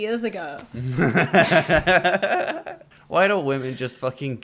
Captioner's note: laughter